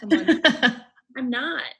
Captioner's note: laughs